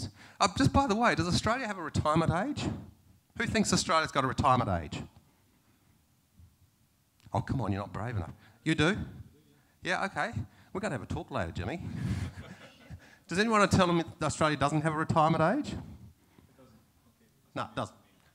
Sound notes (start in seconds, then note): 12.0 laughter